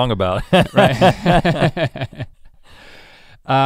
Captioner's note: both chuckle